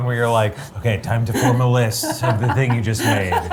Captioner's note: laughs